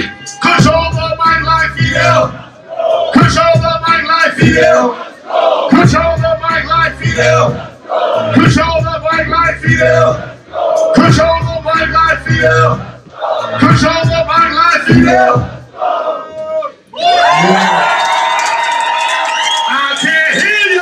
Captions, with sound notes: Control the mic like Fidel. Oh. Control the mic like Fidel Oh. Control the mic like Fidel Oh. Control the mic like Fidel Control the mic like Fidel. Oh. Control the mic like Fidel. Oh. [CHEERING] I can't hear you.